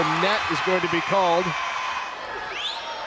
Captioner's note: players yelling